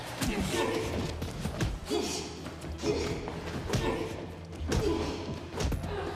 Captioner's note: people groaning; blows thudding